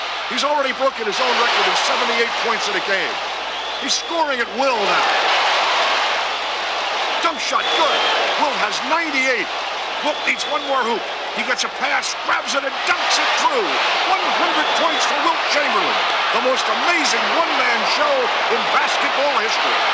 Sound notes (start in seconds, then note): 4.9 crowd cheers